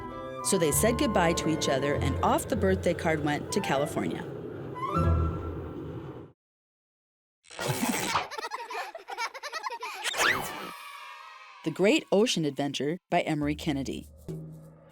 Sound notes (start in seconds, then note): 7.9 children laughing; 10.6 children cheering